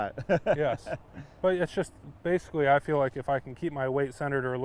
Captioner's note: laughing